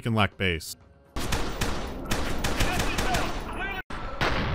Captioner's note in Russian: пах-пах-пах; бам-бам-бам